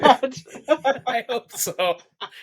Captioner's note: laughing